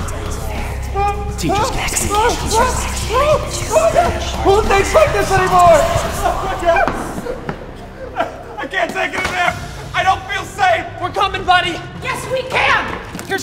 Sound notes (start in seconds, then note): 7.7 sobbing